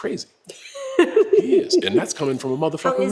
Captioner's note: laugh